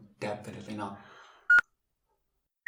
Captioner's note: beep